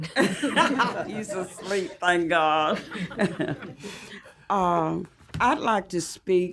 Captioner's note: laughter